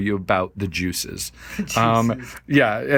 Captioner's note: chuckling